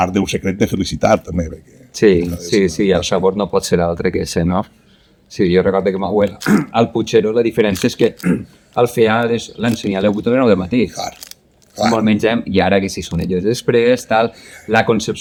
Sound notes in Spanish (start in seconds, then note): 6.4 se aclara la garganta